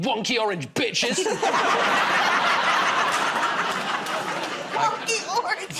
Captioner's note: laughter